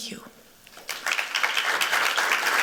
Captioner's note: applause